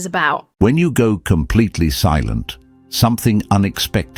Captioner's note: AI Voice